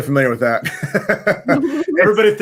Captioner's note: laughing